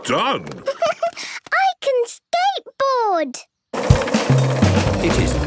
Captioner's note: giggles